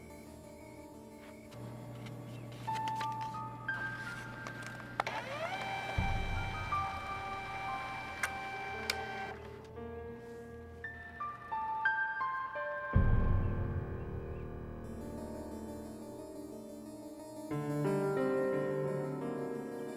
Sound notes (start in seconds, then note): 5.4 computer whirring; 9.4 soft mysterious music continues